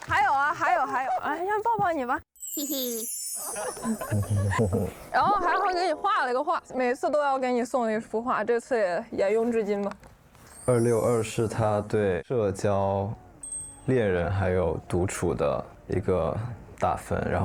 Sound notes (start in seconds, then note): 3.4 chuckles; 4.1 mhm-hm